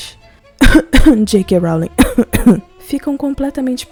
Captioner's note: cof-cof